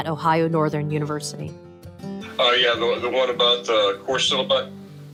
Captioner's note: via phone